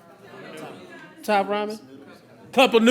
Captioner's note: crowd muttering